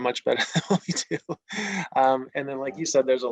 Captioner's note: laughs